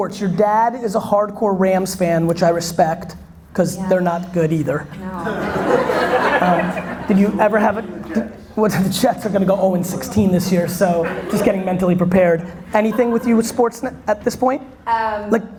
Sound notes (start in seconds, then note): 5.0 audience laughter